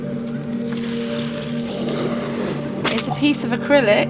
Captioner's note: plastic sliding